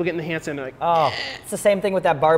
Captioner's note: groaning